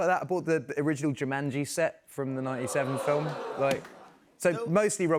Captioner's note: audience oohs